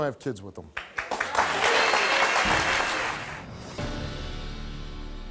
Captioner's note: audience clapping